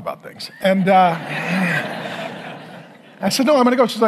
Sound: congregation laughing

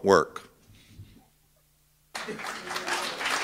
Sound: applause

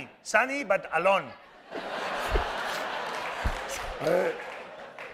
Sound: laughter

